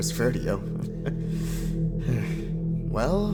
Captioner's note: chuckles nervously